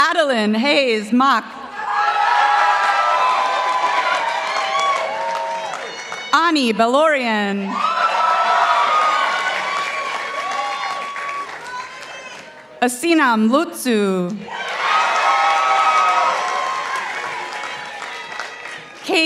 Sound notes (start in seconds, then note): 2.2 participants applauding; 7.8 participants applauding; 14.5 participants applauding